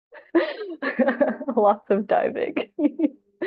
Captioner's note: laughs